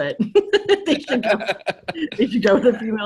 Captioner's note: all laughing